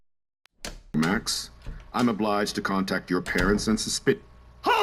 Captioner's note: door Opens and Closes